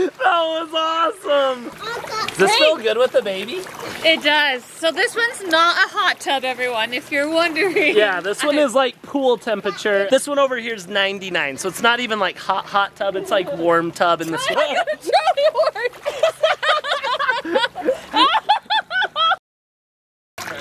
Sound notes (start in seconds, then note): 0.0 laughs; 17.0 laughs; 18.1 laughing